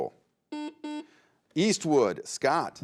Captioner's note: buzzer buzzes